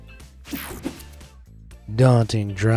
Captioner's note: screen whooshing